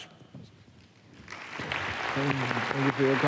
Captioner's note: applause